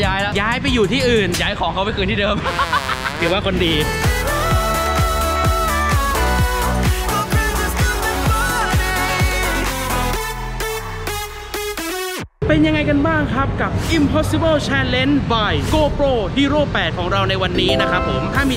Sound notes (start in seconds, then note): 2.4 laughing